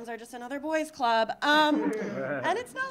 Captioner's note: audience laughing